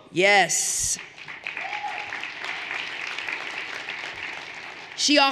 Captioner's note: everyone applauding